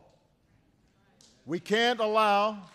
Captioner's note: applause